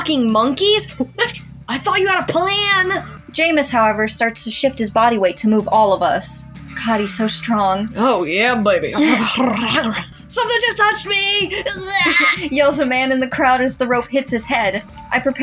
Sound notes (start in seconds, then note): 1.0 monkey Noises; 8.6 flirty Growls; 8.9 chuckle